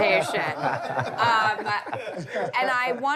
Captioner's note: laughter